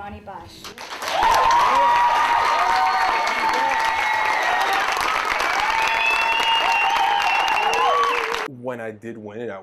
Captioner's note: applause